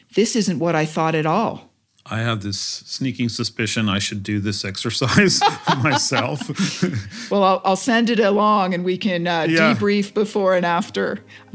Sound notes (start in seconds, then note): 5.0 laugh